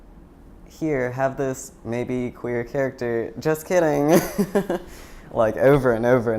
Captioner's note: laughing